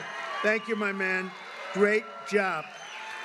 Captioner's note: applause